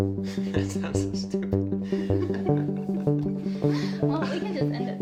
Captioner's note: laughing